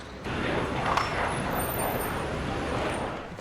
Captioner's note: car brakes